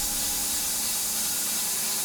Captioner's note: info whooshes; saw continues buzzing